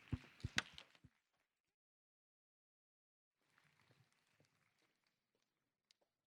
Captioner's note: applause